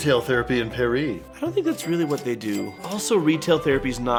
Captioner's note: cha-ching, cha-ching